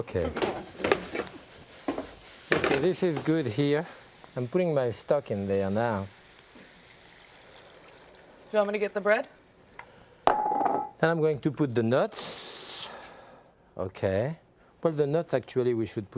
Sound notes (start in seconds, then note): 10.3 measuring cup clanging